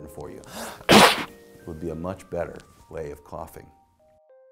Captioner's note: sneezes into arm